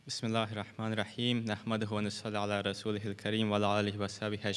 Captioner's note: speaking foreign language